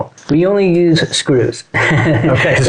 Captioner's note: laughs